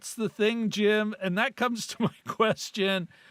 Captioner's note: laughs